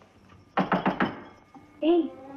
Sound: knock On Door

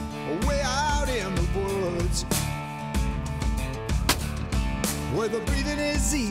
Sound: gunshot

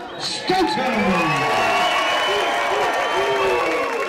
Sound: crowd cheering

